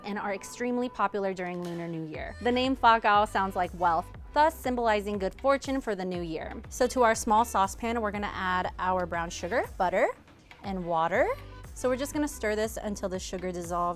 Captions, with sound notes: and are extremely popular during Lunar New Year. The name (speaks foreign language) sounds like wealth, thus symbolizing good fortune for the new year. So to our small sauce pan, we're gonna add our brown sugar, butter, and water. So we're just gonna stir this